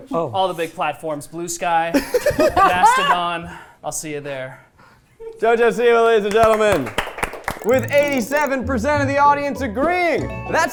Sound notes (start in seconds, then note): 2.0 everyone laughing; 6.2 everyone clapping